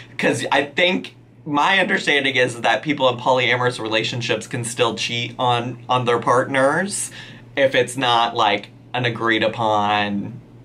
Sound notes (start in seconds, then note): none